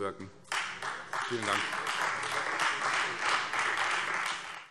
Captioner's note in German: Beifall Freie Demokraten